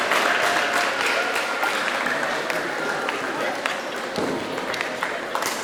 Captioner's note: applause